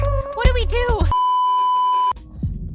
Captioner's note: beeeeeeeeeeeep